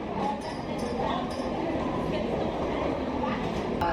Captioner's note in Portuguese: sons de aeroporto